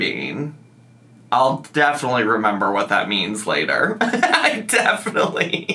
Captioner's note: laughs